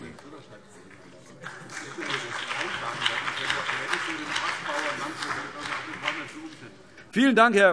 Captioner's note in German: Beifall BÜNDNIS 90/DIE GRÜNEN